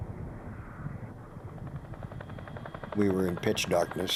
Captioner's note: helicopter rotors droning